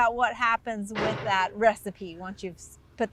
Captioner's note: excavator arm crashing